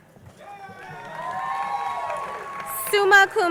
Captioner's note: crowd cheering and applauding